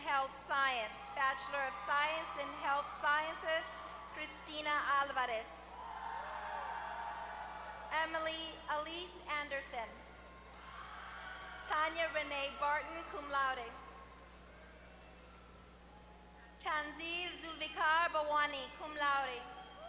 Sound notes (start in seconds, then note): 5.2 applause